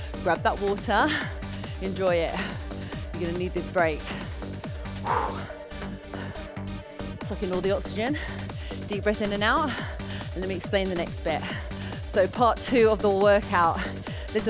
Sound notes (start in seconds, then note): 5.1 exhaling